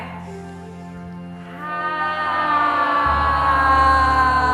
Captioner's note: all sigh slowly